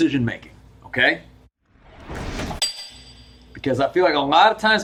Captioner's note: air whooshing